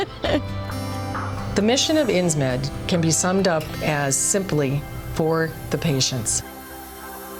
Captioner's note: laughs